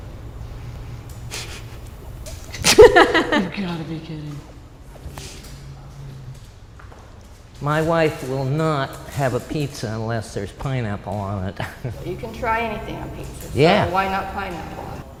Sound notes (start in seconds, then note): 2.5 laughter